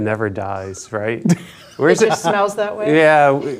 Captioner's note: laughing